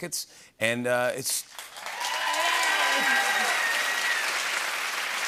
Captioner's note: cheers and applause